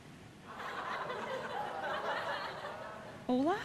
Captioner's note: audience laughing